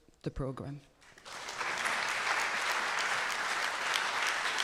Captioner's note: audience applauding